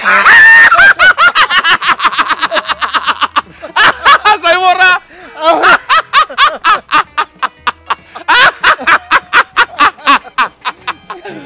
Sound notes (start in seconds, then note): 0.1 Both Starts Laughing; 6.0 Laughing Loud; 9.3 Continue Laughs